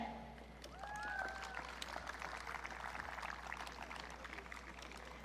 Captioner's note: audience cheering